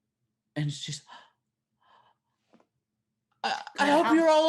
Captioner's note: gasping